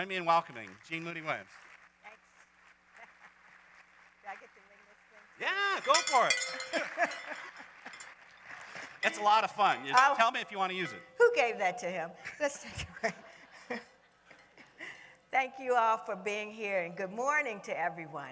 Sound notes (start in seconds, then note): 0.0 applause; 5.5 laughs; 9.0 cowbell clangs; 9.4 laughter; 15.2 laughter